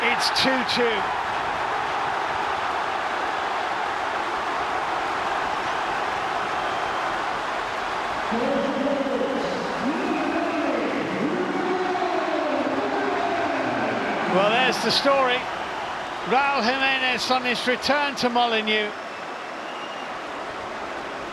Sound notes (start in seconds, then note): 3.2 cheers and applause; 3.7 crowd noise